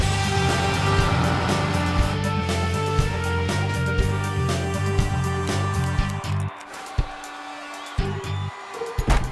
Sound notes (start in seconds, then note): 5.3 cheering